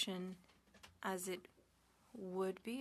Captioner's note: speaking French